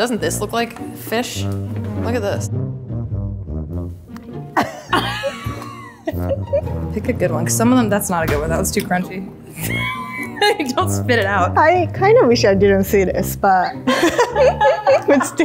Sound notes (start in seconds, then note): 4.5 laughter; 9.6 laughs; 13.8 laughter